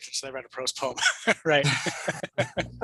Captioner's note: laughs